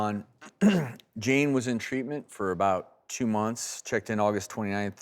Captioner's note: clears throat